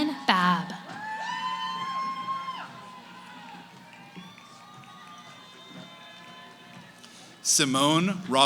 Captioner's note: cheering